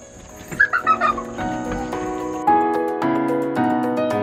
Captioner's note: children laughing